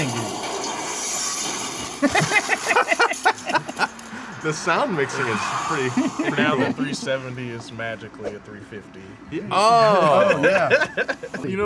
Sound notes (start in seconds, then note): 0.3 metal crashing; 1.8 laughter